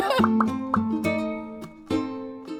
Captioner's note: everyone laughing; graphic popping; bright acoustic music